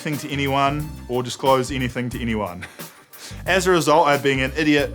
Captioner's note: chuckles